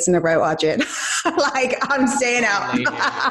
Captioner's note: laughs